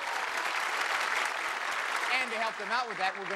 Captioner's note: applause